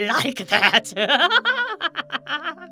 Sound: evil laughs

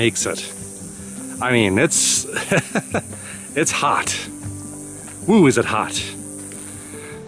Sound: laughs

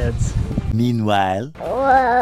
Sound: french Voice

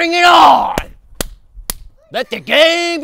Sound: slaps snap loudly

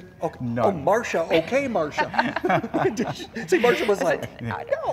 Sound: laughing

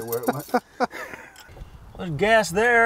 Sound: laughs

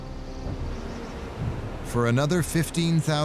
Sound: birds chirping

